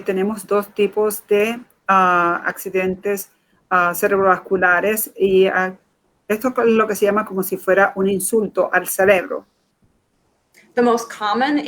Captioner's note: speaking in Foreign Language